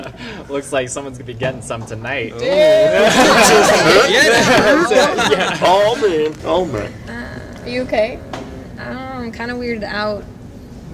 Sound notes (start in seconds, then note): 0.2 laughs; 2.9 laughter